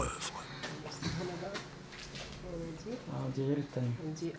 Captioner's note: Arabic spoken audio